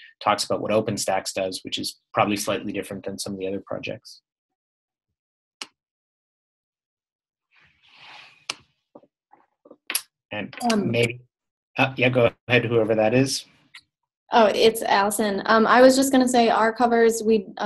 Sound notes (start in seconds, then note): 10.3 pause